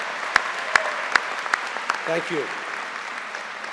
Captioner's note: applause